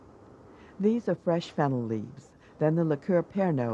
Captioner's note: voiceover